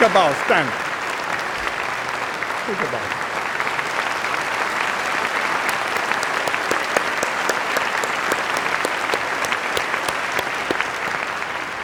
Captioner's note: applause